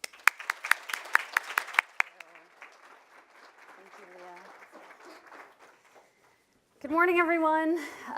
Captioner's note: applause